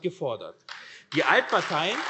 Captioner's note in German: Beifall